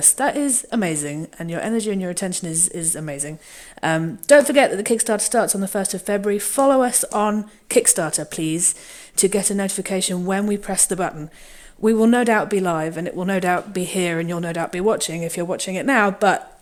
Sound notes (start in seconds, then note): none